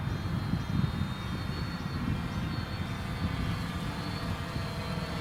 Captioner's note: drone humming